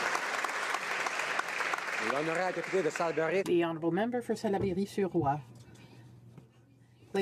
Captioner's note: applause